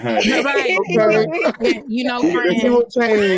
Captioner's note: laughing